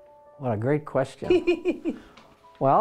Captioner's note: laughing